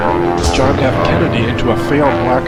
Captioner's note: plane engine roars